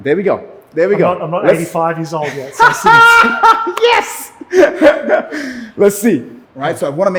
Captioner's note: laughter and screaming